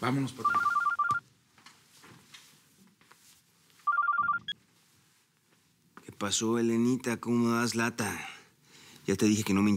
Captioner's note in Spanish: suena el celular